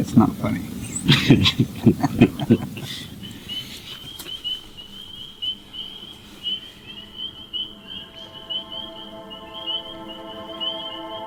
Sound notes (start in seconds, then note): 3.6 frogs peeping; 7.6 enchanted music